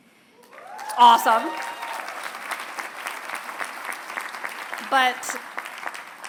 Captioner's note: applause